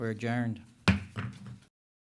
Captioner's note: bangs gavel